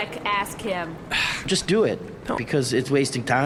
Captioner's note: Pleck sighs